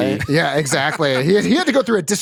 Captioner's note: laughter